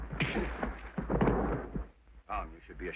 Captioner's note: Dirk thuds; fist thunks